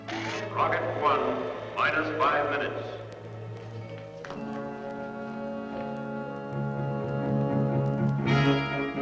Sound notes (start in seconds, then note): 0.8 loudspeaker; 3.8 suspenseful music